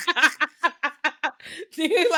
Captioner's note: laughing